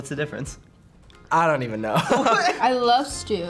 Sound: laughs

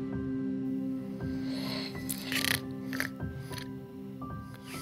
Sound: snoring

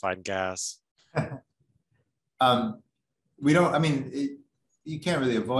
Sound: laughs

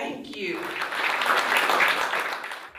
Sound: applause

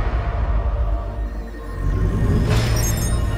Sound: computer beeping

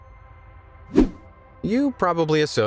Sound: video whooshing

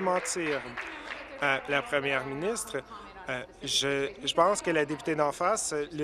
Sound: applause

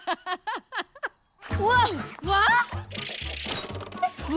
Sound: laughing

